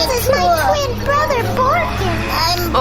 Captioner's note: whispering